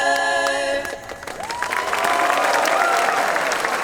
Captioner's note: cheering, applause